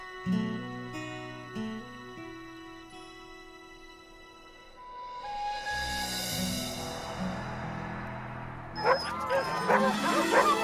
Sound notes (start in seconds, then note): 5.5 wind blowing; 8.8 dogs barking